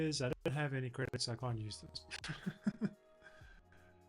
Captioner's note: laughs